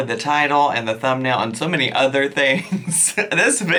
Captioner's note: chuckles